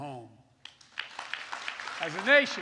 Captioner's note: applause